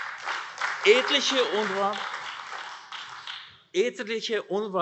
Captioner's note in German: Beifall AfD